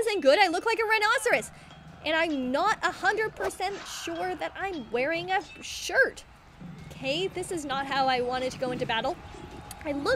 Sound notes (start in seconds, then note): none